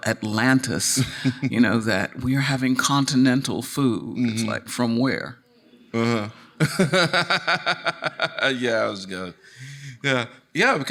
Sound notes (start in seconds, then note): 5.9 laughs